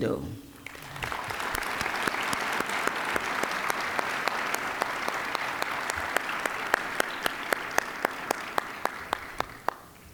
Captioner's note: applause